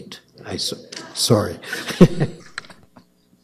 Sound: chuckles

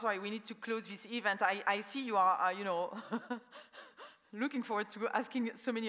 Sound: laughs

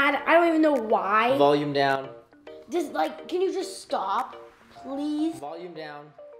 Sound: none

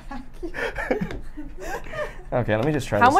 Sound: laughs

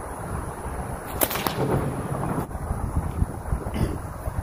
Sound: whip cracks

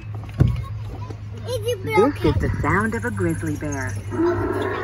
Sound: roar

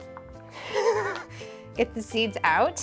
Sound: laughs

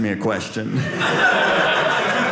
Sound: audience laughing

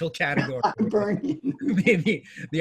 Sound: laughing

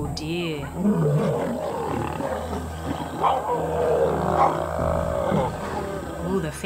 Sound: roars

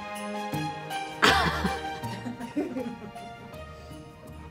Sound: Candace laughs

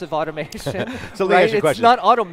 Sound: laughing

